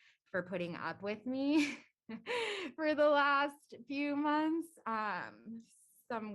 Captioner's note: laughter